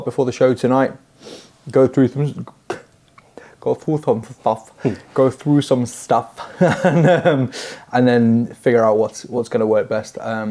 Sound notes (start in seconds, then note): 2.6 comical accent; 6.4 chuckles